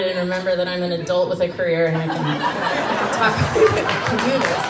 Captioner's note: crowd laughs